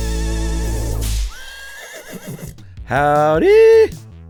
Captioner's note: whip cracking and horse neighing